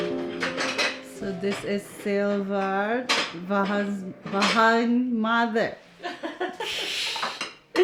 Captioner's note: laughs